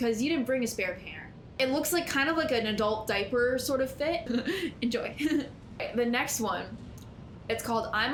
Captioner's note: giggles